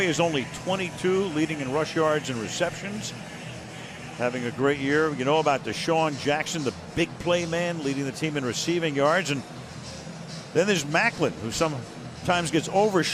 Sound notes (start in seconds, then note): none